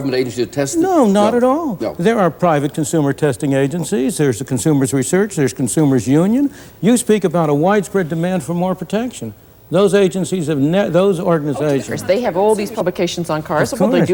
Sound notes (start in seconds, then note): none